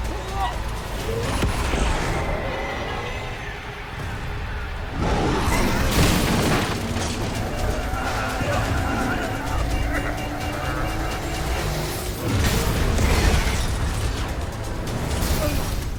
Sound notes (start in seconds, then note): 2.0 dramatic music; 6.2 loud crashing; 8.3 dramatic music; 8.3 machine beeping; 12.6 loud crashing